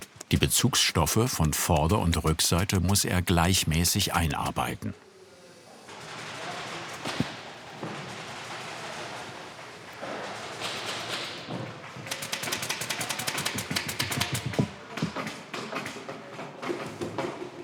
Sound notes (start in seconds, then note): 12.1 rapid stapling sounds